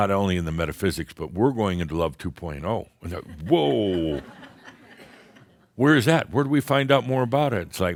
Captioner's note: more chuckles